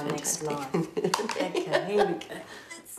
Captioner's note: laughing